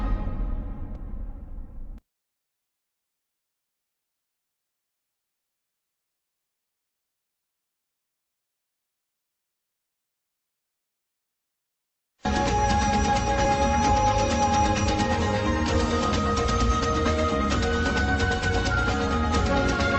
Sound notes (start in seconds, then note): 2.6 silence; 12.2 adventurous music playing